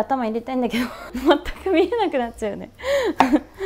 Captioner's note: laughter